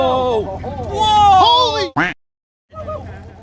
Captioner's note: fishermen exclaiming surprise; duck quacking